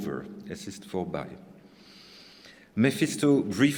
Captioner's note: speaking german